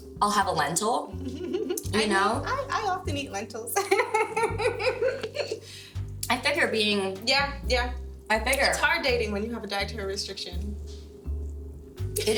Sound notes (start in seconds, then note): 5.2 giggles